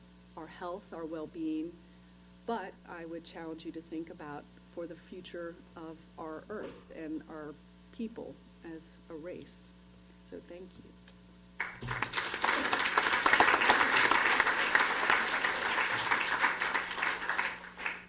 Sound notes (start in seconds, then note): 11.6 applause